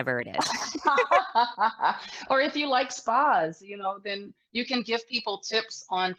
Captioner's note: laughs